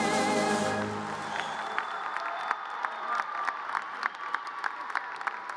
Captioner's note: audience cheers and applause